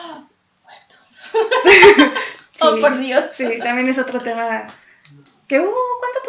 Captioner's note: gasp